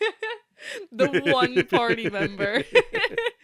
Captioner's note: laughing; laughter